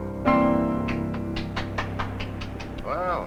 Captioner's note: Sandy applauding